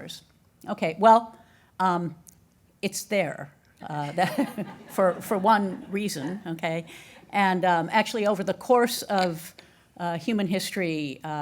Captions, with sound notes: Okay, well, it's there (audience laughing) for one reason, okay? And actually, over the course of human history